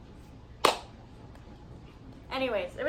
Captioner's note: clap